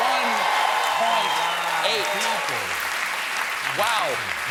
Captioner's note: cheers and applause